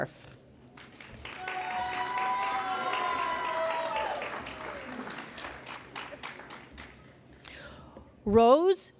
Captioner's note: cheering and Applause